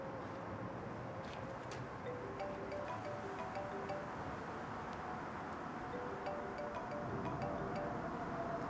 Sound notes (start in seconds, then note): 3.8 cellphone ringing